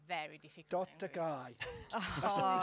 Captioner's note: speaks Finnish